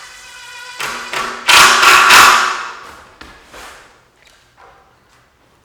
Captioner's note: power screwdriver grinding